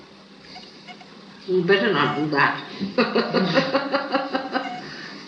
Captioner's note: she laughs